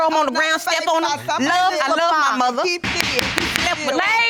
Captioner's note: bangs gavel